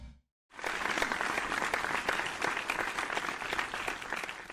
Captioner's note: applause